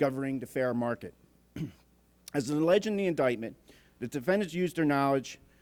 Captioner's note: clears throat